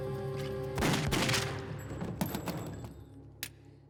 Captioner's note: guns firing; suspenseful music